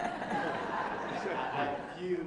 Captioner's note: laughter